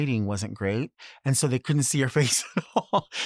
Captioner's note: laughs